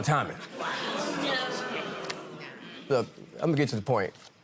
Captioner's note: audience groaning